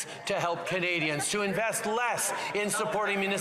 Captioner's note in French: voix de l'interprète